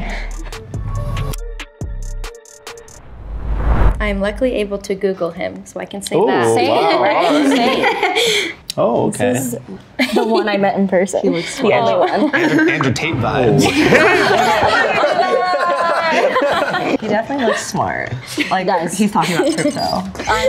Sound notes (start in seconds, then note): 0.3 smooth music; 7.1 laughs; 13.6 everyone laughs